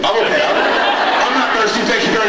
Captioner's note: laughs